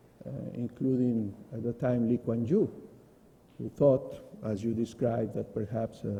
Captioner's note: foreign words